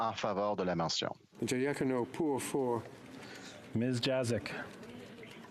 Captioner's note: speaking French